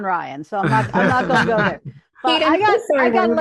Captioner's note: laughing